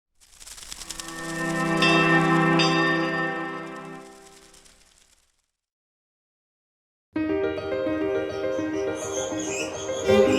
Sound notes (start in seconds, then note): 1.6 chiming bell; 7.2 instrumental music